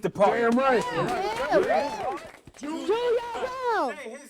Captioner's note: group clapping